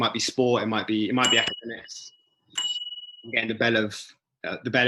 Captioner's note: bell rings